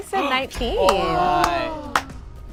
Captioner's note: group gasps